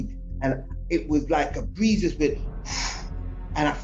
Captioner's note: puffs air